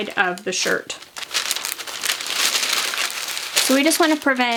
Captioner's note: paper rustling